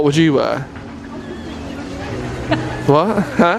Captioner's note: laughs